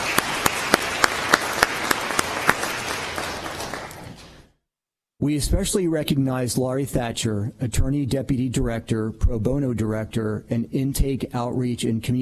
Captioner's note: applause